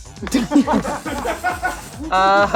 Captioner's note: crew laughing